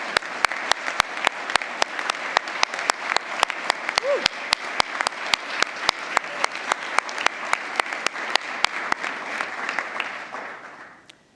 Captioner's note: applause